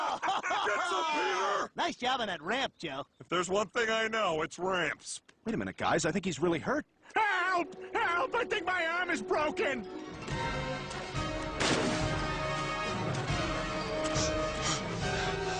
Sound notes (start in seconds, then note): 0.0 laughing; 11.6 splash; 14.0 Thomas panting